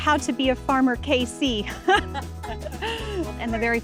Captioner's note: laugh